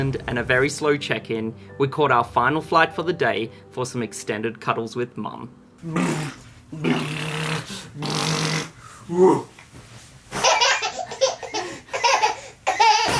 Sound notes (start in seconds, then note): 5.8 blowing raspberries; 10.4 laughing